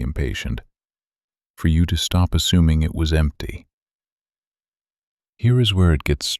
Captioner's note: long pause